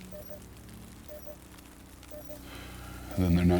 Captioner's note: fire crackling; machine beeping